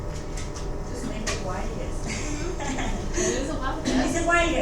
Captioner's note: chuckles